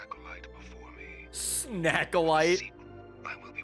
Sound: laughs

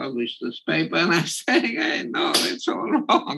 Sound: laugh

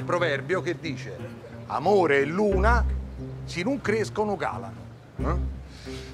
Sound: in Roman dialect

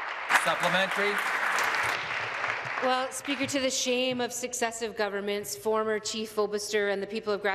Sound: applause

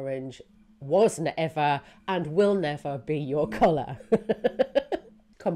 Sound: laughs

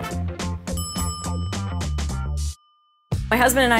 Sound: bell dings

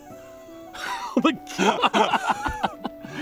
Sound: laughing like meanies

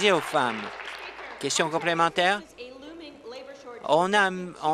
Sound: applause

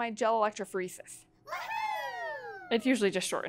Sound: wohoooo

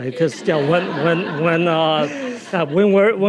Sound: audience laughing

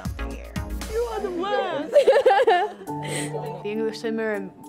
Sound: laughs

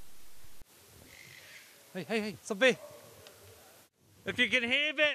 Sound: squawking sound

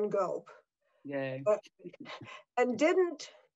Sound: Eileen chuckles

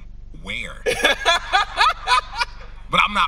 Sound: host laughing

